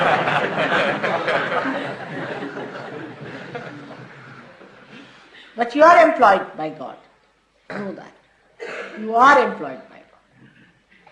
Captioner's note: laughter